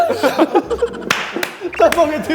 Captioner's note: he he he